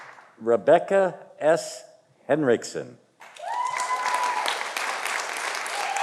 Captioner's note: audience applauding